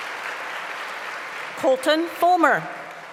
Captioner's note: applause